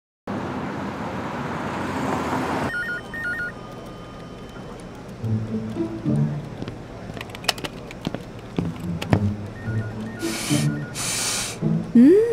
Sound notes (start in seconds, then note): 5.7 footsteps; 10.2 sniff sniff